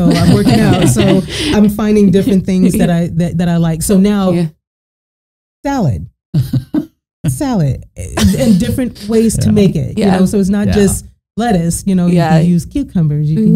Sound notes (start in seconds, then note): 0.0 both laughing; 8.1 both laughing